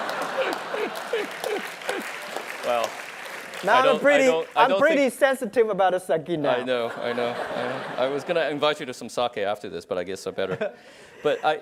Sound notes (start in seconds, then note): 3.6 applause